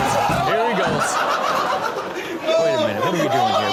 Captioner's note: man laughs hysterically